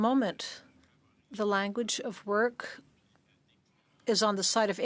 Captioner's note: speaking French